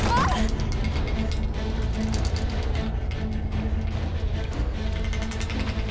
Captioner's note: tense music; student shouting